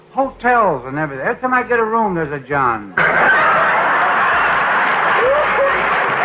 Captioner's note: audience laughter